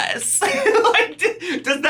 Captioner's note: laughs